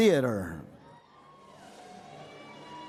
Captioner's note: cheering